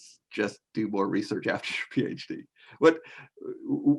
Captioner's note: chuckles